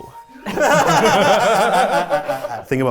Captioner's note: people laughing